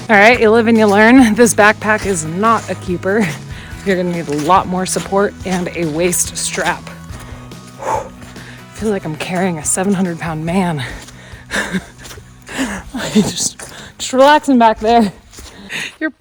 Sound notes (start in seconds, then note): 7.8 exhales; 11.4 laughs